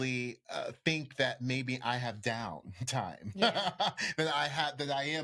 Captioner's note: laughs